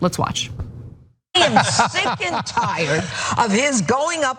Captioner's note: laugh